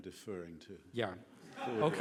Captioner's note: laughing